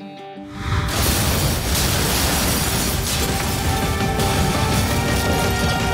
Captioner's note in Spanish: Explosión